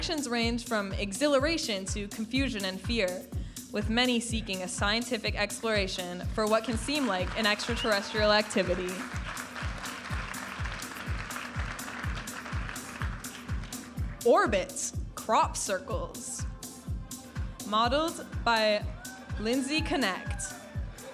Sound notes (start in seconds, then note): 10.1 audience applauding and cheering; 12.3 upbeat music; 16.9 upbeat music; 20.9 audience applauding and cheering